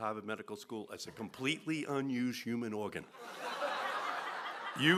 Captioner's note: laughter